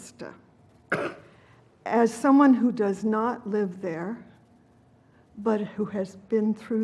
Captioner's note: cough